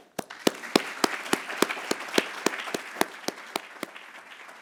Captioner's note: attendees applauding